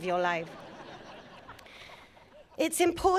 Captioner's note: audience laughing